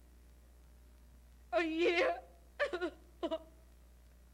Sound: sobbing

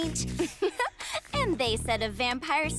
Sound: laughs

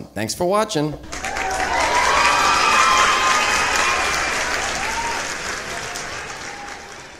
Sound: crowd Applause

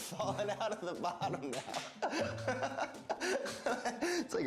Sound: laughter

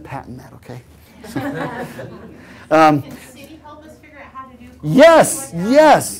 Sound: laugh

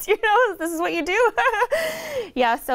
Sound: laughs

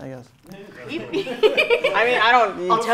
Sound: group laughing

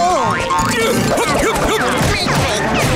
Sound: grunting

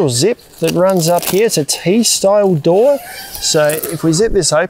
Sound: zip hissing

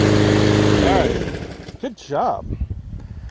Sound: lawnmower shuts off

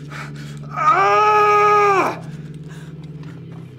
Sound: screams

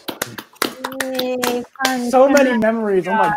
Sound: Eddie and Patrick clapping

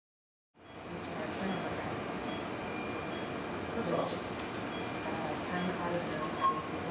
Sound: operating room sounds

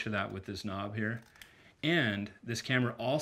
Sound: clicking

